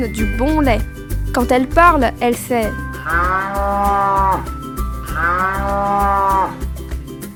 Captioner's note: the cow moos